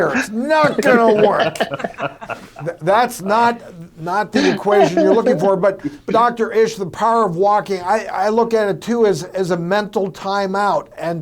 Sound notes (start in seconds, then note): 0.0 others laugh